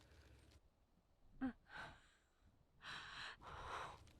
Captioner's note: lyssa gasps